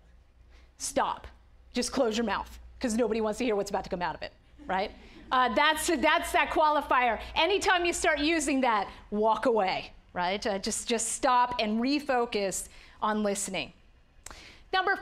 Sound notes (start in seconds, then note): none